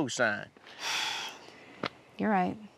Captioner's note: sighs